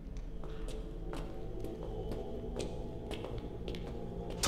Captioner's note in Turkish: Ayak sesi